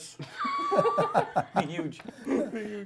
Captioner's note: laughter